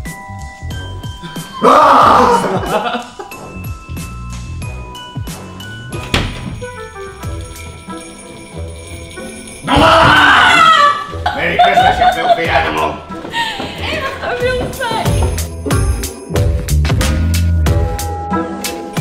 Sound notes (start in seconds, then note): 1.3 laughs; 9.6 screams; 13.2 laughs